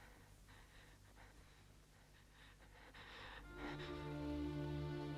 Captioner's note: Hundra's breath shaking; somber music